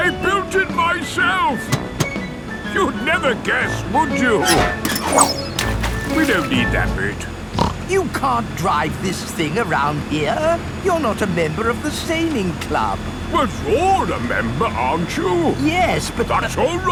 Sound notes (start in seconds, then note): 5.4 splashes; 7.5 snorts